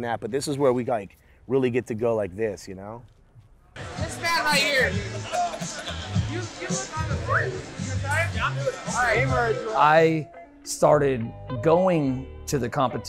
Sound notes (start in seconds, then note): 4.8 man laughs; 4.9 background music